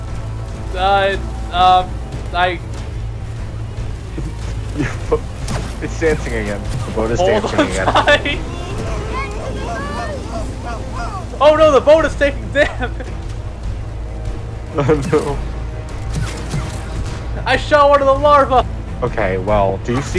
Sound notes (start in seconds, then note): 4.1 giggling; 6.8 laughing